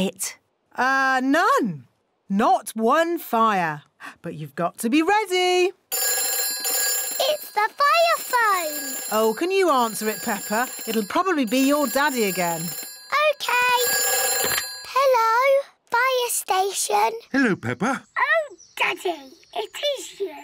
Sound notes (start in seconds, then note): 5.7 phone rings